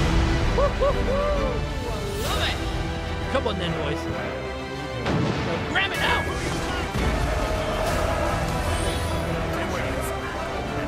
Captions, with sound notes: 'Wahooo! I love it!' 'Come on then boys!' *Bell rings* 'RAM IT NOW!' *Boat crew is yelling and loving it*